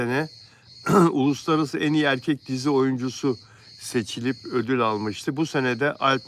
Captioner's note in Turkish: boğazını temizler